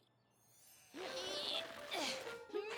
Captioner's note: grunting